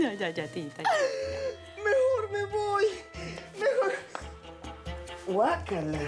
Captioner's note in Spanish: Sollozos